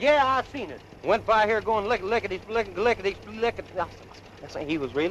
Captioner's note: stuttering